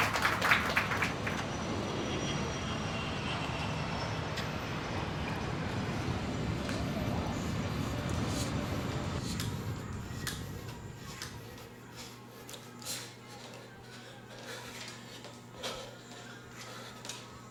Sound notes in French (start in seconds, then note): 1.9 Avion décollant; 11.2 Lourde respiration